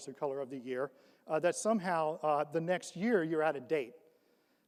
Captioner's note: none